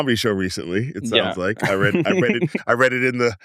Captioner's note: laughs